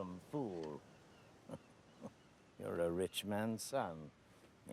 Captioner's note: chuckling